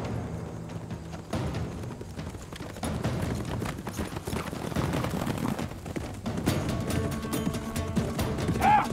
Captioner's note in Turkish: At nalı sesi